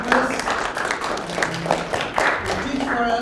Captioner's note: applause